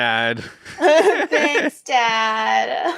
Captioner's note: both laughing